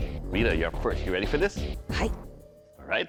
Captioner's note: japanese